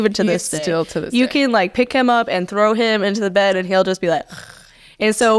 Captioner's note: snoring